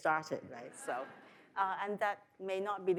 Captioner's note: audience laughs